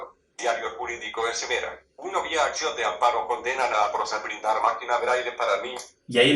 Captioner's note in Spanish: voz del dispositivo. Lectura del PDF